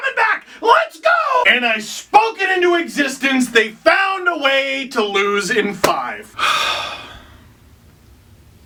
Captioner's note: sigh